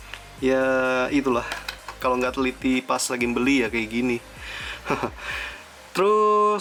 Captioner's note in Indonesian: tertawa